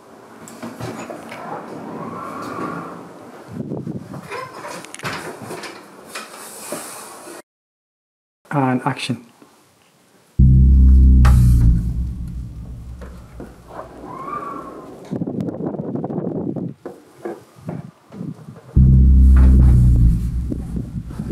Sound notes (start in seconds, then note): 0.2 sound of door being opened again and the wind whistling and rushing through; 10.4 intense music; 13.8 intense wind and whistling sound. Scary; 18.8 intense scary music